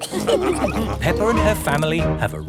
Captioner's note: all laughing